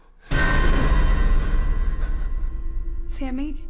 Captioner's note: sudden ominous music; Sammy gasping